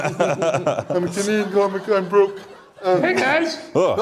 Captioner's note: audience Laughter